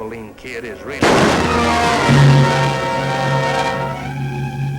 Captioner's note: gun shot